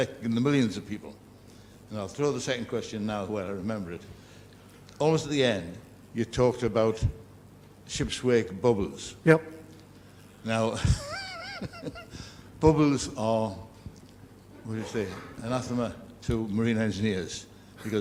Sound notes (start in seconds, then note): 10.7 laugh